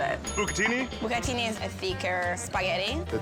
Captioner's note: bell rings